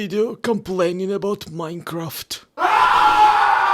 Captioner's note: pained scream